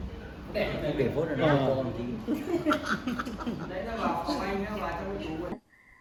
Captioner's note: people chatting